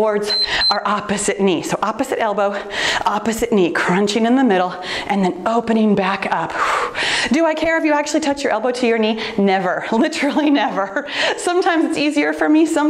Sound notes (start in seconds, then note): 0.2 timer beeps; 6.6 exhales softly